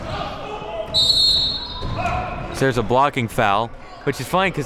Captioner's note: whistle blowing